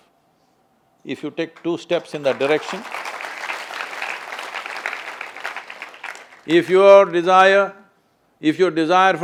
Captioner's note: applause